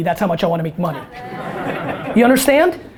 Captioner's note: audience laughter